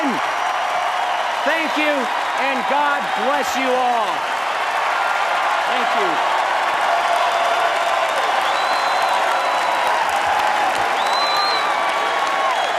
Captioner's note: applause